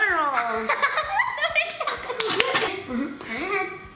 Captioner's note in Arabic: يضحك